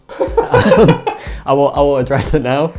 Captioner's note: laughing